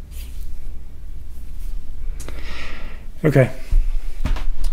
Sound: sigh

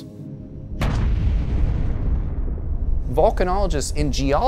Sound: explosion

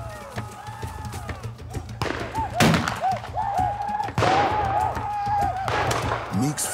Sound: whooping sounds, gunshots

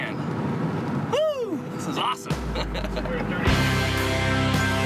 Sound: laughing; rock music

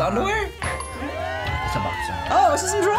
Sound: bell dings; crowd cheers

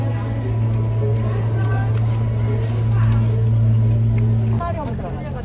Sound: laughing

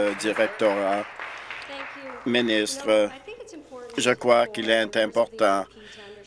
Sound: applause

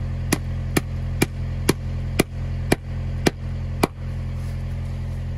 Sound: hammer whacking

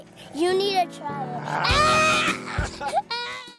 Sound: child screams

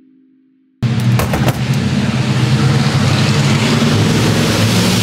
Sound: truck engine rumbling

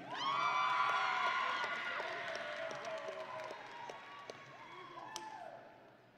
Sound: audience and graduates cheering

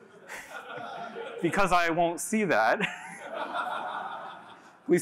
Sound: laughter

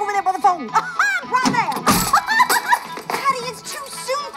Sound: laughs

